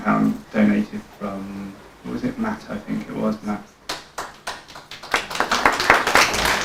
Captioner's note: applause